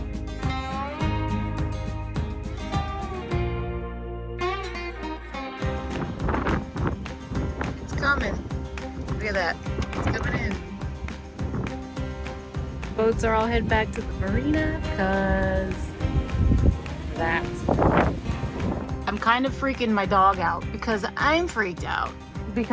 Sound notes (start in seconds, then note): 0.2 gentle upbeat music; 6.0 wind whipping